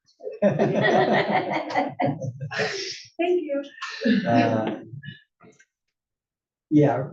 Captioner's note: laugh